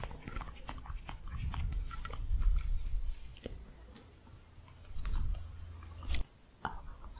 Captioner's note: gentle jingling